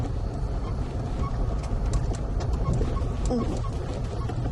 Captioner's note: car squeaking